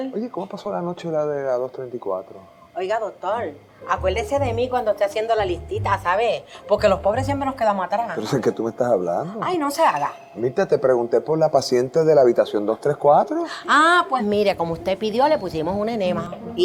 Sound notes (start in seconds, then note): none